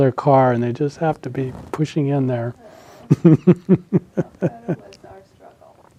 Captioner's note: laughs